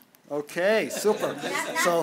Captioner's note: laughter